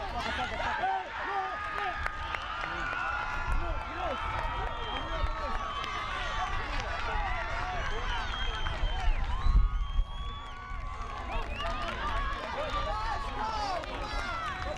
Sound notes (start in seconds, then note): 3.2 crowd cheers